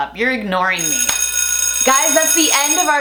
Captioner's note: bell ringing